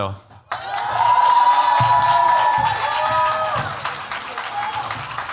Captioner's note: cheers, applause